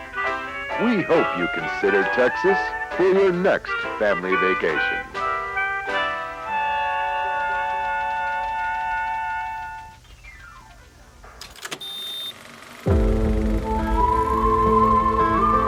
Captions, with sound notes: We hope you consider Texas for your next family vacation. (film reel ticking) (haunting Western music)